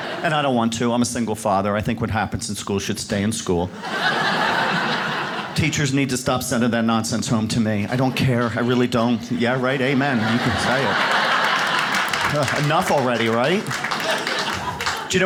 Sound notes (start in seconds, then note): 3.7 audience laughs